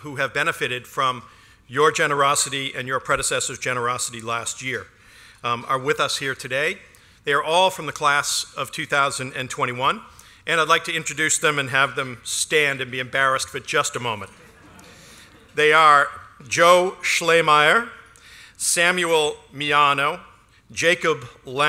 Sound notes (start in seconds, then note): 14.3 laughter